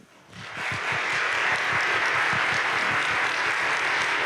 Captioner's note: audience claps